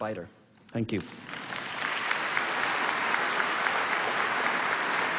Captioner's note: applause